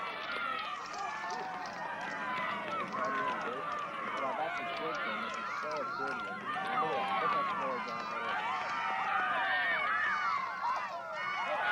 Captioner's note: crowd cheering